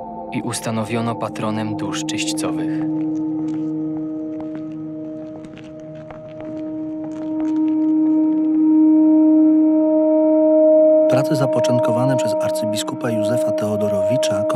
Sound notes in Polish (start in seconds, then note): 8.1 głos inscenizujący "konserwatorów"